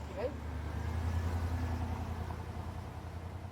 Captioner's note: vehicle driving